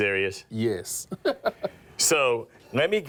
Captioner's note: laughs